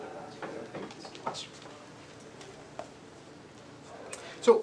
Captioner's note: murmured discussion